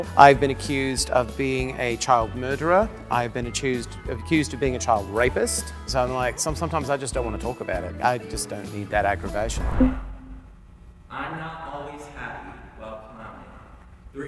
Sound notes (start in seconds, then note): 8.9 air whooshing